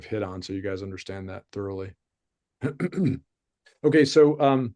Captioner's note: clears throat